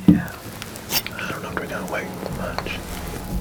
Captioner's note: whispering